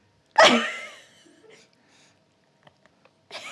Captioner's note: laughs